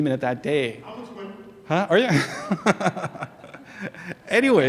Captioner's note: laughs